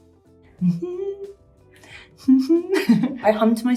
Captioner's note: hums; chuckles